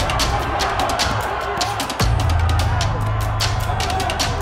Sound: music intensifies; audience cheers

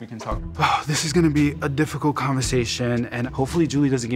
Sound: sigh

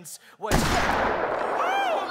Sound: gunshot

